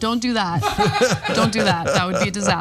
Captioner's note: laugh